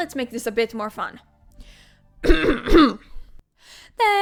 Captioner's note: clear throat